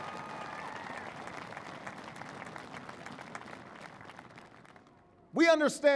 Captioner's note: applause